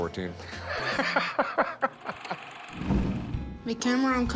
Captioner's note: laughs